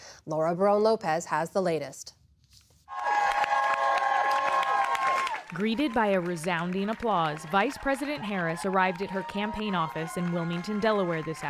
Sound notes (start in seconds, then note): 5.4 applause; 5.4 cheering